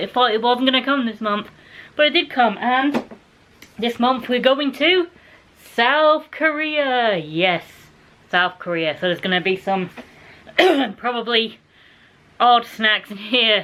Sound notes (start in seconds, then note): 10.5 cough